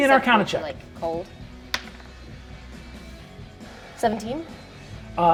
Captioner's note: die rolls